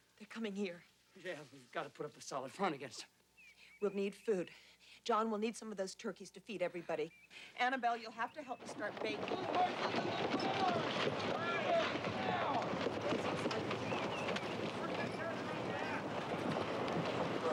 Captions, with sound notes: - They're coming here? - Yeah, we've gotta put up a solid front against 'em. - We'll need food. John, we'll need some of those turkeys to feed everybody. Annabelle, you'll have to help me start baking. (people shouting) (wagons rattling)